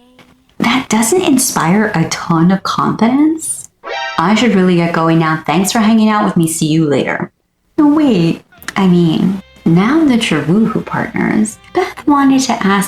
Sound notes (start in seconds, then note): 3.8 metal gear !! sfx